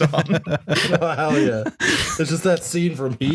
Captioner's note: laughter